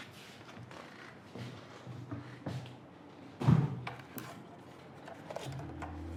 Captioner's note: rustling